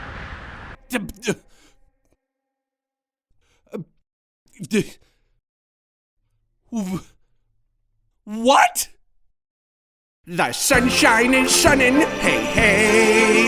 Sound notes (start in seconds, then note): 1.1 stuttering; 10.6 singing